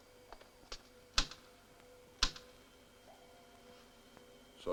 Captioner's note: switch clicks